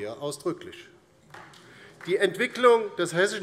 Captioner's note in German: Beifall bei der LINKEN